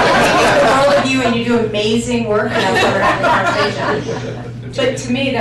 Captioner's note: laughter